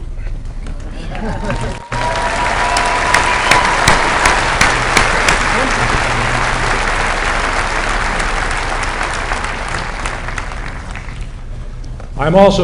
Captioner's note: applause